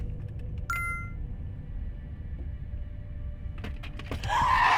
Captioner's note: phone beeps